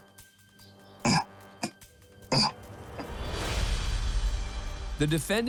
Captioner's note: grunting